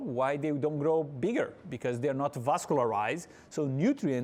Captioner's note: none